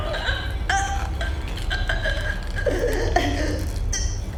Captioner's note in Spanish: Lynette se ahoga